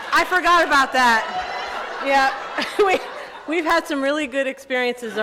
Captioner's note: chuckling